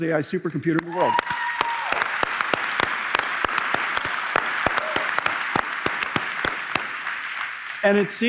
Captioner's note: applause